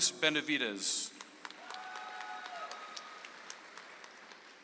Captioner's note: audience applauds